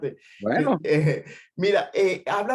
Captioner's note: laugh